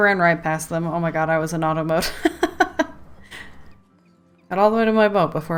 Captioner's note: laughs